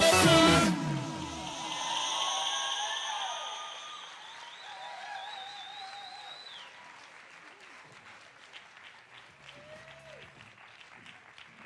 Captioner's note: cheering and applause